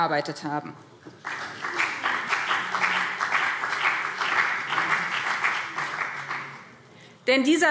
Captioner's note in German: Beifall BÜNDNIS 90/DIE GRÜNEN und CDU